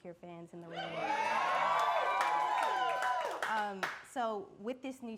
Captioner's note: audience cheering and clapping